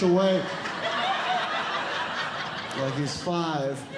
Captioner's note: audience Laughing